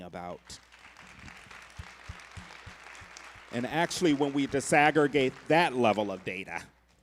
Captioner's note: applause